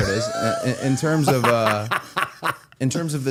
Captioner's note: Matt laughing